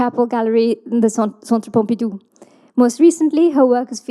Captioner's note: host speaking in foreign language